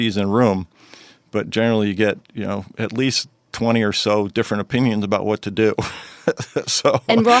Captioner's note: laughs